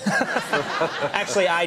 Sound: laughter

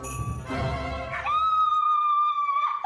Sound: screams

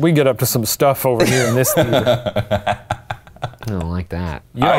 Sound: laughing

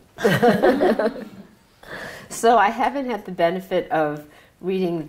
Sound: laughs

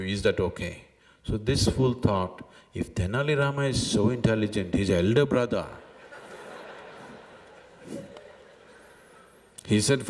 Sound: laughter

